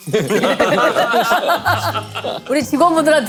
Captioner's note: laughing